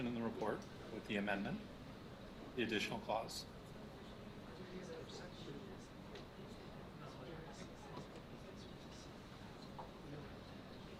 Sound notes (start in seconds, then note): 6.2 board murmuring